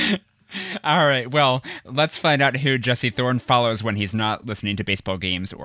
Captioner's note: laughs